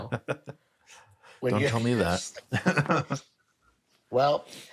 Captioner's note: laughs